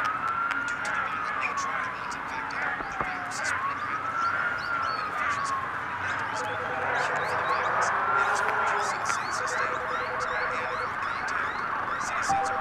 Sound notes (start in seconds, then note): 4.0 birds chirping; 6.5 phone ringing